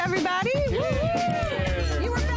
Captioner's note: all cheering